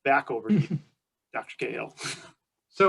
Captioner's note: laughs